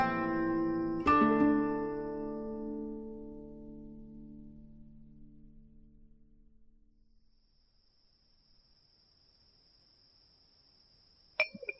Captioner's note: sound of pouring water